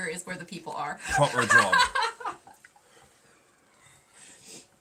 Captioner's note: laughing